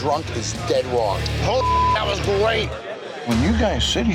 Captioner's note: beep